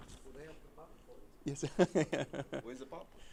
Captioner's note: background conversations